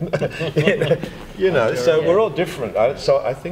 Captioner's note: laughter